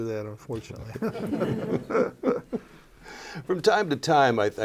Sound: laughter

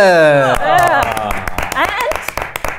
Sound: claps

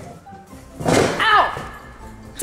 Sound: loud banging

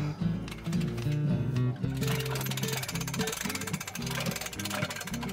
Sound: upbeat guitar music; metal crank winding

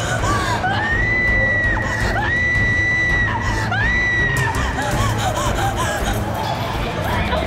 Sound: Savannah screams instead of running

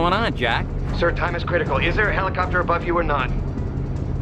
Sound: Bauer, phone

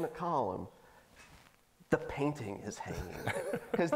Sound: laughing

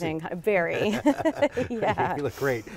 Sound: laughs

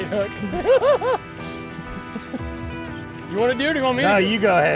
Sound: both laugh

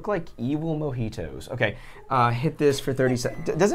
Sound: microwave beeps

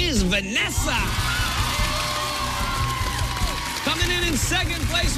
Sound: cheers and applause

